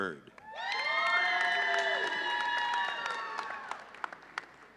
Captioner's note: audience cheering